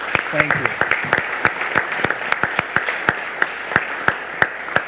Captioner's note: audience applauds